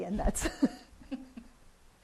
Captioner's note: laughter